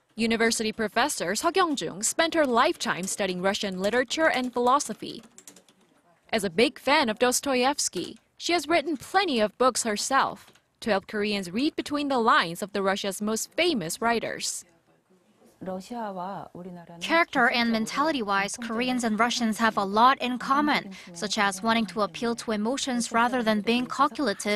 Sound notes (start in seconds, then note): 15.2 Korean